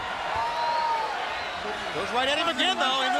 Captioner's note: crowd cheering